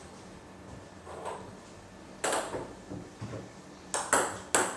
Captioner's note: balls ping pong hitting continues